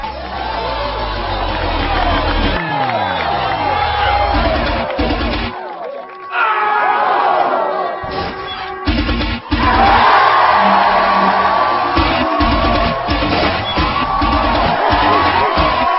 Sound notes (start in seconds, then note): 4.4 all gasping; 7.2 all cheering loudly